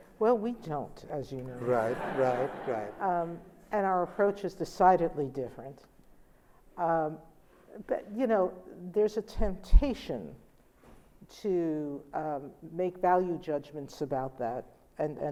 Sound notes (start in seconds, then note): 1.5 laughter